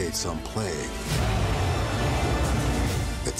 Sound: loud roaring

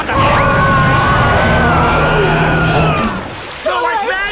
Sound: roaring

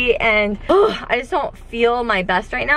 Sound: grunts

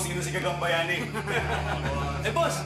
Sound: laughter

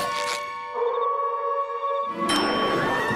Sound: howling

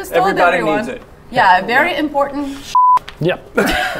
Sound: beep; laughing

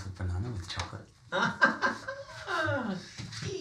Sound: Rodney laughs

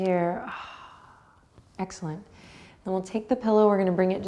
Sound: sighs gently

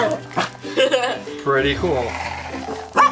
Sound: assistant laughs

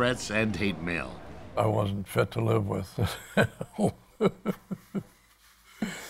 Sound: laughs

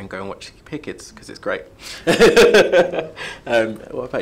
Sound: laughs

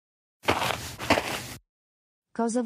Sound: FX - Footsteps - On Multiple Dirt - Walk

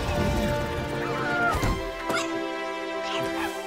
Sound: groans

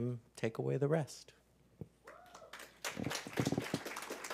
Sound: applause

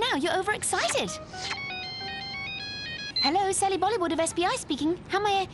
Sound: cellphone ringing

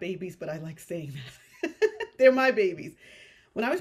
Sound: chuckles

